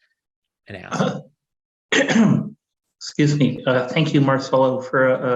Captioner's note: coughs